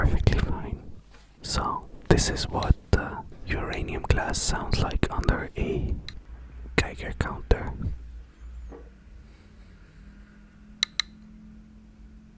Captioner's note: some ticking